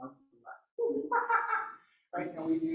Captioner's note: laughing like a monkey